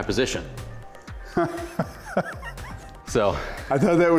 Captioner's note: laughs